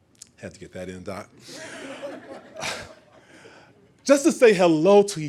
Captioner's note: laughing